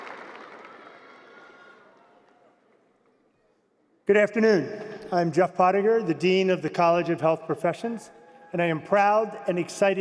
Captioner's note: cheers and applause